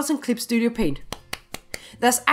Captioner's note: claps